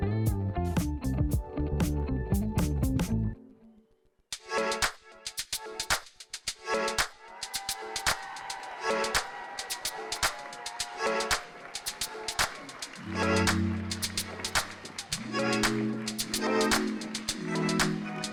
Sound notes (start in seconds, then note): 7.6 audience cheering